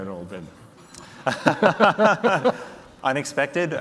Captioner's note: both laugh